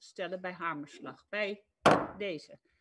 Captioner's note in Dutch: Voorzitter klopt met hamer